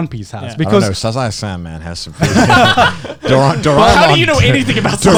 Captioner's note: laughter drains speech